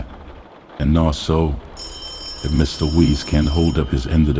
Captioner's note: phone rings